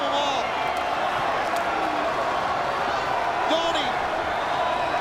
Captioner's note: crowd cheering